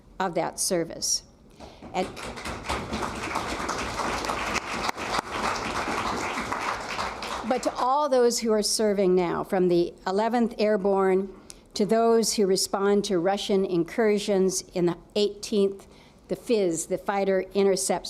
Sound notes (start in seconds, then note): 5.8 applause